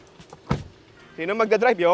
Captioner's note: door thuds